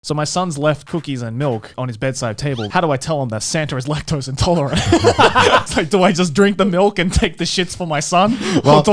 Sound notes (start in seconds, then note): 4.4 laughing